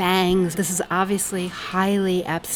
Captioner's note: voiceover